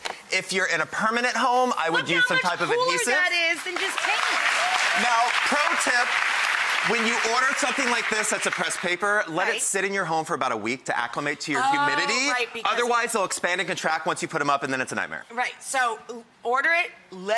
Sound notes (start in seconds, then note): 3.2 audience clapping